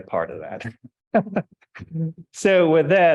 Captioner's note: chuckles